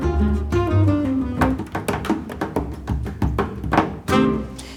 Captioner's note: fast hammering